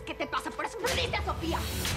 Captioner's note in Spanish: bofetada; bofetada fuerte